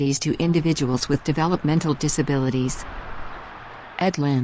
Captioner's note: birds chirping